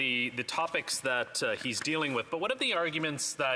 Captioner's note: speaking French